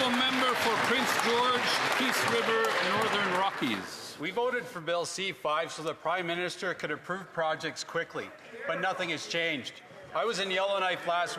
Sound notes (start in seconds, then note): 2.4 applause